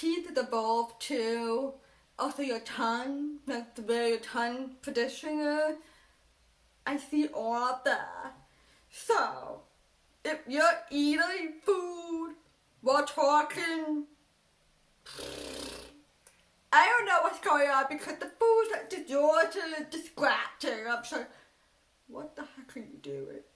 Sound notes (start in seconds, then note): 15.0 blows raspberry